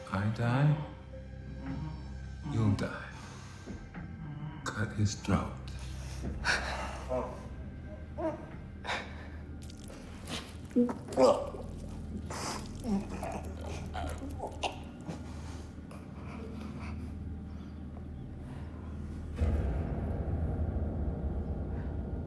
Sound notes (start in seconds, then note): 11.0 bound man gurgling; 19.4 sinister music